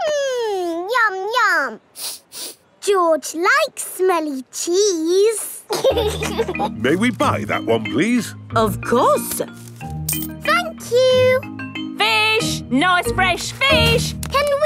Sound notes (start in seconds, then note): 1.9 sniffs; 5.7 laughing